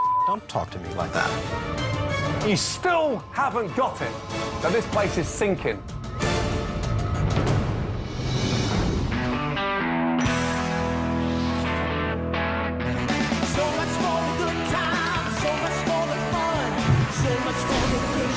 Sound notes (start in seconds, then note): 8.8 bell dings; 8.8 rock music